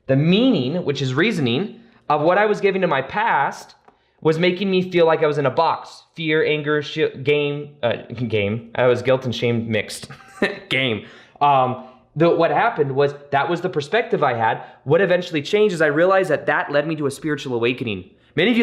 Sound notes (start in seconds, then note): 10.0 chuckles